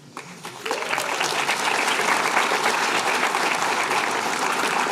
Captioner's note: applause